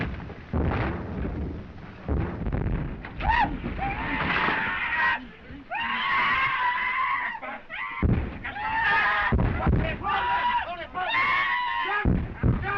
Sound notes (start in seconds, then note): 3.4 screaming